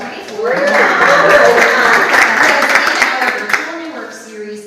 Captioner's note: audience applauds